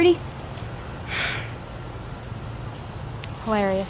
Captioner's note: sighs